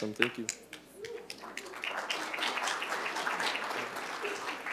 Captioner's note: applause